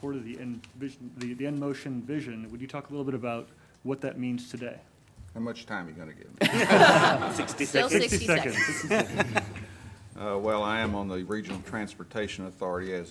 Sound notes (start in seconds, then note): 6.4 everyone laughs